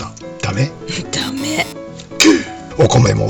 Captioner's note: laughs